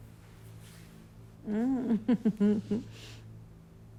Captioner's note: laughs